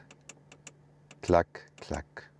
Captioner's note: clack, clack